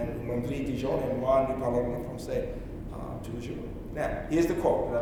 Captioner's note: speaking in French